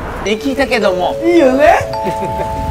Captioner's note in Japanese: アナウンス音